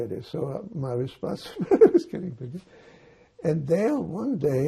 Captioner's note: laughing